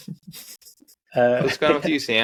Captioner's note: laughing